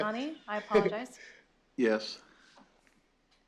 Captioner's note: laughs